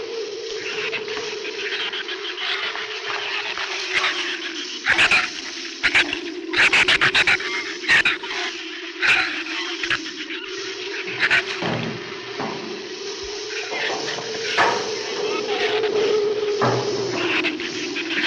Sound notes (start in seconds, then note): 0.5 shrews chatter; 7.0 shrews chatter; 12.7 flame hisses; 12.7 wind howls